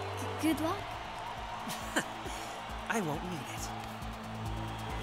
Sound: chuckles

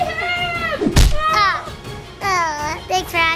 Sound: pillow smacking

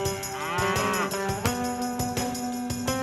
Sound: cow moos

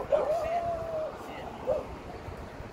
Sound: sudden vigorous dog barking

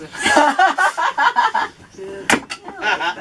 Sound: laughter

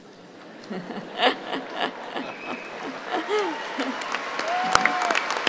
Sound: chuckling and applauding

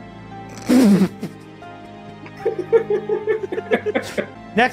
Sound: laughter

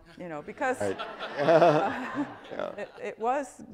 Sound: audience laughs

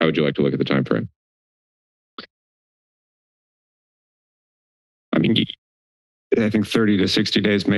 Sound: silence

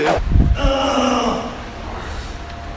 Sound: screaming

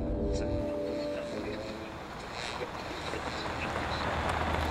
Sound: radio buzzing

